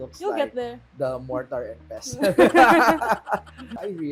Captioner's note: laughter